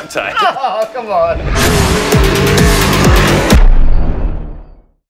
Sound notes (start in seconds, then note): 1.2 engine roaring